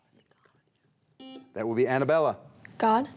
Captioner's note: buzzer beeps